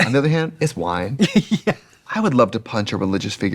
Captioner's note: laughing